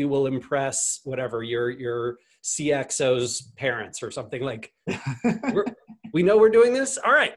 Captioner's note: laughs